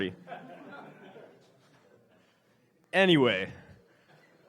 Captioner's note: laughs